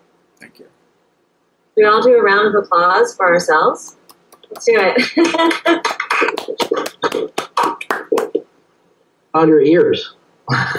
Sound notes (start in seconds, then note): 3.9 clapping